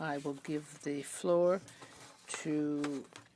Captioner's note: speaking French